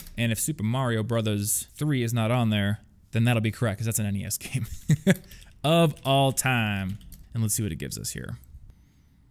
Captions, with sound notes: and if Super Mario Brothers Three is not on there then that'll be correct 'cause that's an NES game. (laughs) Of all time. And let's see what it gives us here.